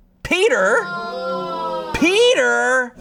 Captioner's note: audience exclaiming